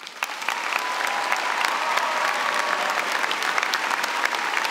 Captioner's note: applause